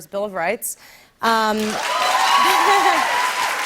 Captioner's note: cheers and applause